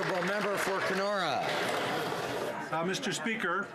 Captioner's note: some Applause